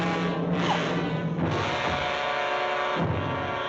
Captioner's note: Elaine Whimpers